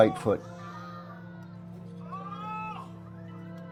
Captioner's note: cries out in pain